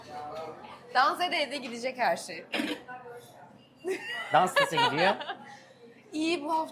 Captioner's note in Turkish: kahkaha